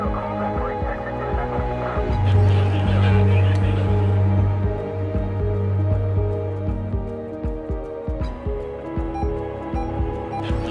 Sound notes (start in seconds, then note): 0.1 ominous music; 2.2 officers chattering